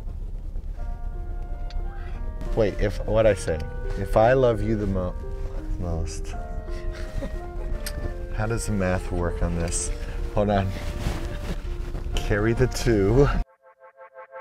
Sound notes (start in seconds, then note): 6.8 snort giggles